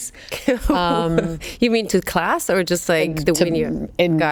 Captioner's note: laughs